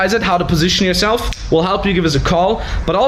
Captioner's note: fingers snap